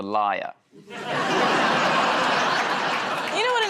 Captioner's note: laughter